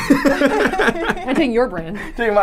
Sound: laughs

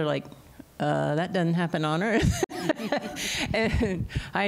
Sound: laughter

